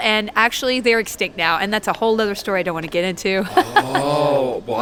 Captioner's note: laughs